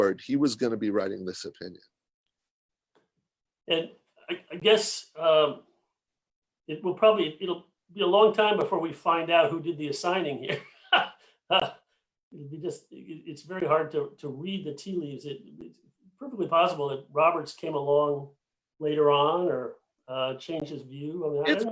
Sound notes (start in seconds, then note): 10.5 chuckling